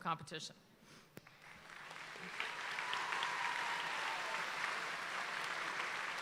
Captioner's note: audience applauds and cheers